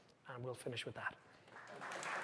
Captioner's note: applause